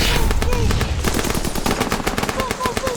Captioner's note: gunfire